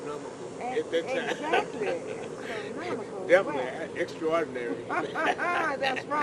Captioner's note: laughs; laughter